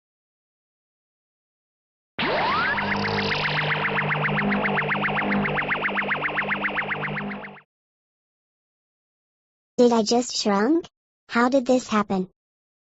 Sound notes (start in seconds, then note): 2.2 Some weird woom woom woom sound from DBZ that I just so happen to have